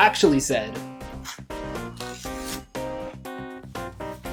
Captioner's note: rip